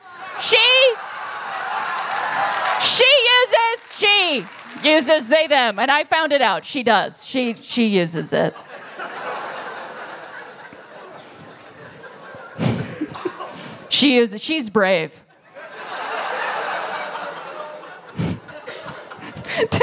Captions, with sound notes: She! [Laughter] She uses— She uses they/them! And I found it out! She does, she uses it.” [Laughter] “She uses it. She's brave.” [Laughter]